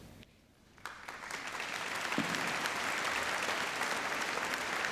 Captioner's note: applauding